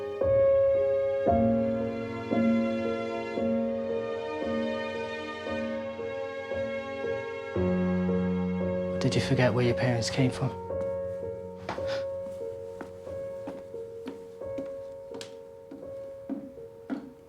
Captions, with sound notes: (gentle music continues) Did you forget where your parents came from? (muted footsteps thudding)